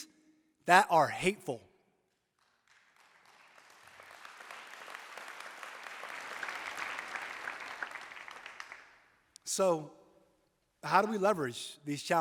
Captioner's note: applause